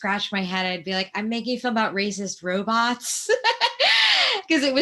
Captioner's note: laughing